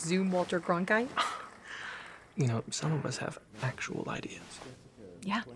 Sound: scoffs

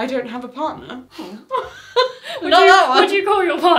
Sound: laughs

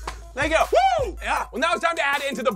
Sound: cheers

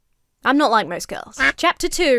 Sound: duck quacks

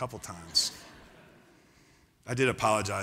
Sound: laughter

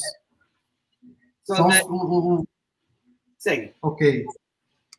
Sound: speaks portuguese

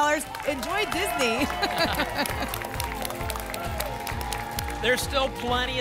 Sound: applause and cheering

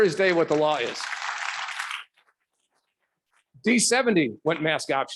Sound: audience clapping

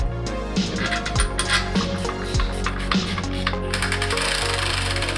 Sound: upbeat instrumental music; metal rattling; instrument whirring

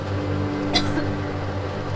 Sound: emma coughs

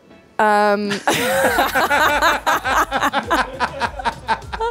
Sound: laughter

